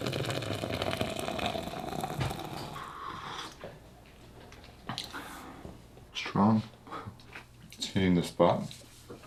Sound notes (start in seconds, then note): 2.6 slowly slurping